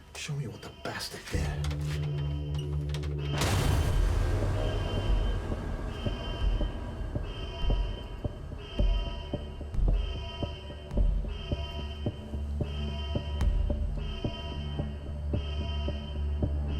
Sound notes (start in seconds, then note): 2.2 alarm blaring; 4.4 dramatic music; 6.3 alarm blaring